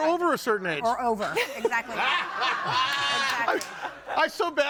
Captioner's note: audience laughing